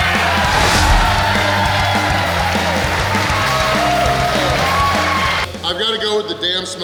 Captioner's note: cheering & Clapping